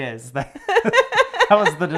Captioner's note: laughing